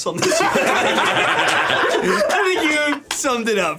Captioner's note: everyone laughing